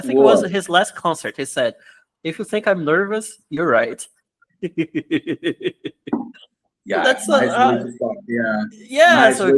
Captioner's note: laughs; laughs